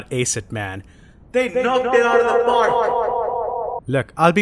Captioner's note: echoes